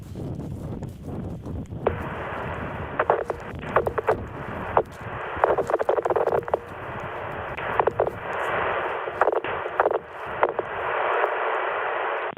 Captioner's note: radio crackle